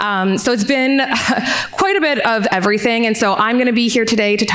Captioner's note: chuckles